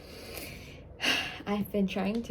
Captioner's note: sigh count: 1